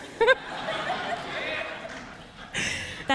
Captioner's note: laughter